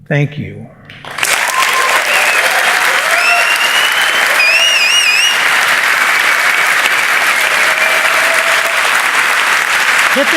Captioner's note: applause and cheers